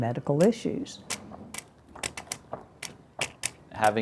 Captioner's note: cane tapping